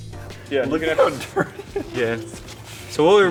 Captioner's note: laughs